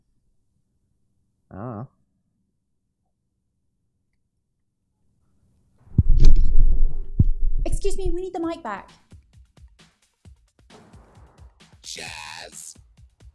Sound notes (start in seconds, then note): 6.0 loud sound of mic feedback; 8.2 background music